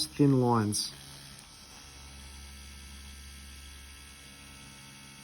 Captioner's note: machine whirring